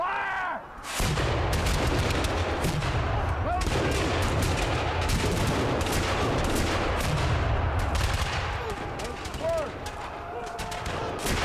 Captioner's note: Patriot cannon and musket fire